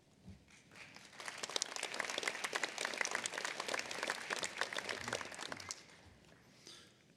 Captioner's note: applause